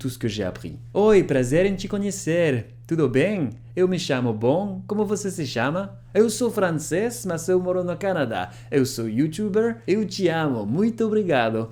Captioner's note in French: parle en portugais brésilien